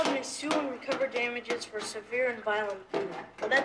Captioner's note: drowned out by banging